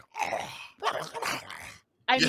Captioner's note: growls